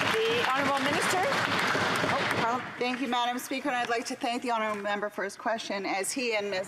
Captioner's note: some Applause